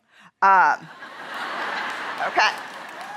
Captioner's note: laughter